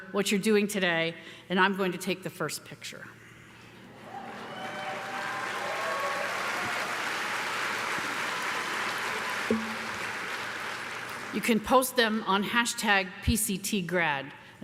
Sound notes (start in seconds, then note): 4.0 audience cheering; 4.0 audience applauding